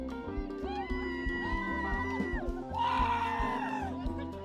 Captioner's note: people cheering